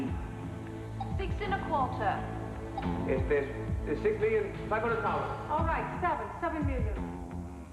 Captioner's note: stammering